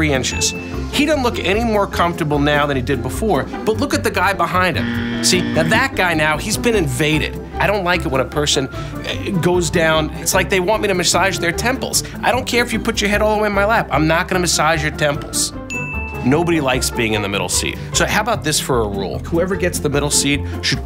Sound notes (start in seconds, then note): 4.6 buzz; 15.7 ding